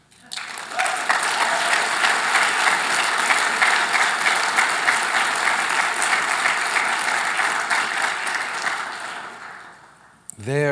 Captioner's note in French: Applaudissements